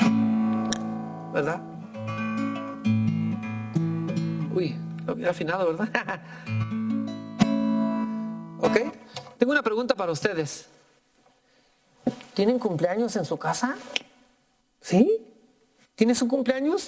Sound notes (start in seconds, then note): 1.6 gentle guitar music; 5.4 speaking in foreign language